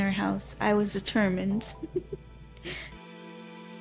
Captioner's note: giggles